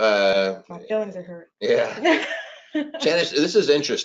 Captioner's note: laughs